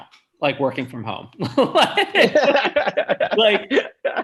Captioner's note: chuckles